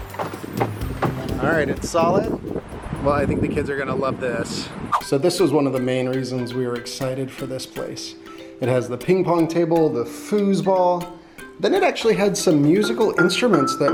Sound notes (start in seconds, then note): 0.0 wood taps; 4.7 air whooshes